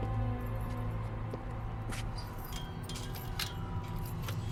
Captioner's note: keys jingling